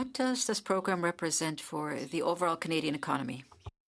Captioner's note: speaking French